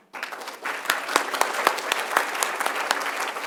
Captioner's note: applause